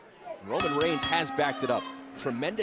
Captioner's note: bell ringing